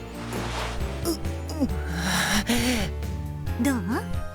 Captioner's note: awkward groan